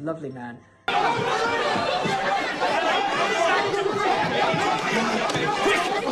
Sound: shouts

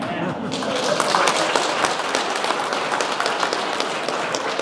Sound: audience clapping

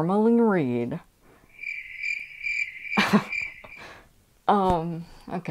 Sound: crickets chirping

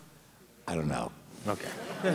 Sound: laughter

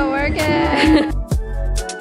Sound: laughs; calm music

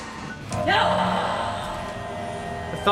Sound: sonic buzz

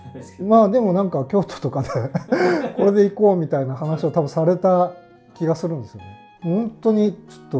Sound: laughing

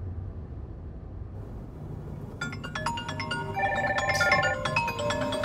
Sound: phone rings

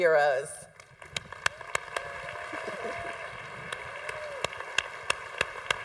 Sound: congregation applauding

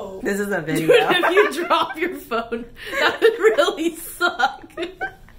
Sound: laughs

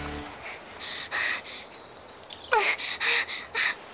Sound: panting

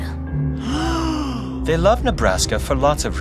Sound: all gasp

